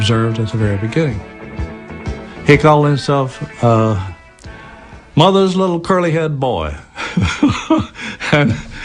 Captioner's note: laughs